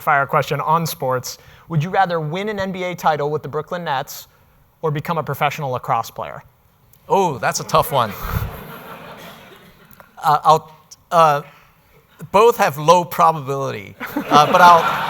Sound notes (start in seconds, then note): 8.0 laughter; 14.0 laughter